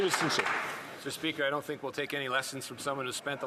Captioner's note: some Applause